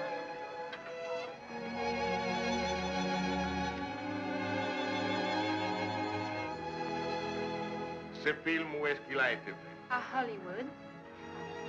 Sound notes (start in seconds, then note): 8.2 French spoken audio